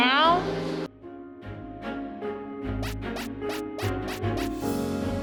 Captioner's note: squeaks in time with fist pumping